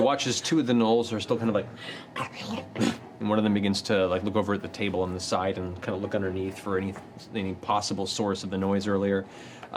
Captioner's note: growls